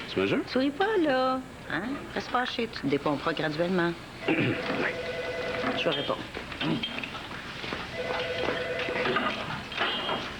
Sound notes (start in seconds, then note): 7.9 Le téléphone sonne